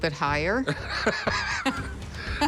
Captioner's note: laughter